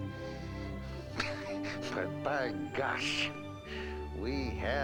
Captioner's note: laughing